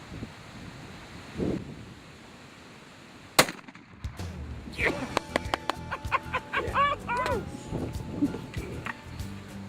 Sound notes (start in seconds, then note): 3.4 gunshot; 5.6 laughter